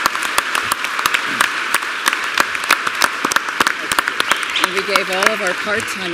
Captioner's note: applause